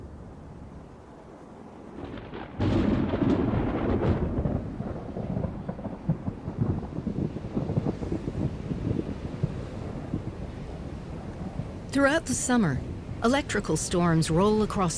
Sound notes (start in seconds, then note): 1.8 thunder